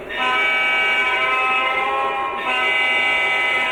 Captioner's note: horn blares